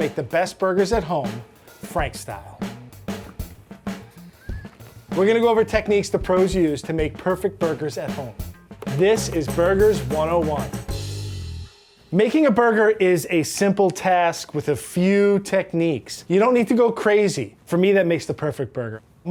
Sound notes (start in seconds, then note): 2.7 uptempo music; 4.0 laughs